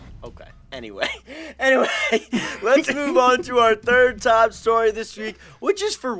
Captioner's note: laughs